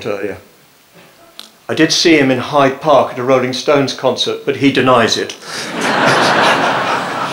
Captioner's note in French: rires